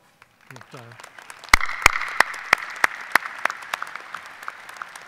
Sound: audience applauding

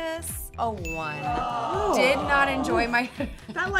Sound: voiceover groaning

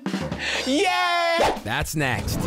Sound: cheering

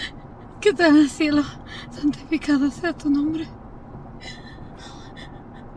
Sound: Janet speaking Spanish

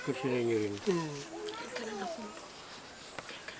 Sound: whispers

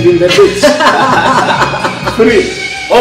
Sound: laughter

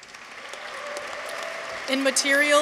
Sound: audience applauds

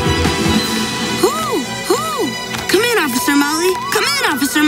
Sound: hooting

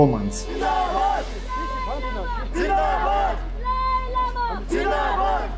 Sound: shouts in foreign language

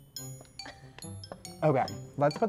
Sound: giggles

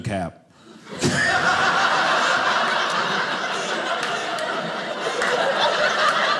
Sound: audience laughing

